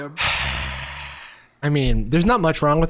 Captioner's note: sighing dramatically